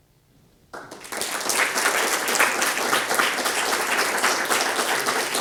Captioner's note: applause